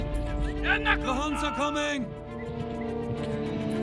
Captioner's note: dubbed in English